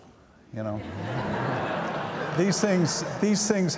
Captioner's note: audience laughs